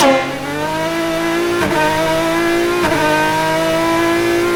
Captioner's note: engine revving